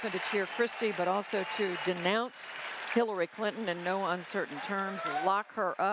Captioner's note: cheering and applause